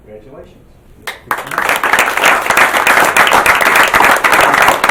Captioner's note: applause